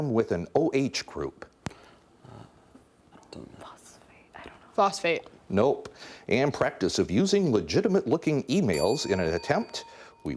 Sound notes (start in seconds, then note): 1.7 whispering; 8.7 bell dinging